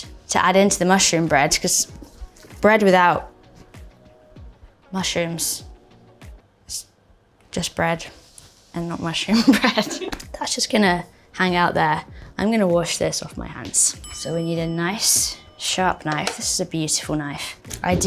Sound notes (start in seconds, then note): 9.4 Bella chuckling; 9.5 crew member laughing; 14.0 bell dinging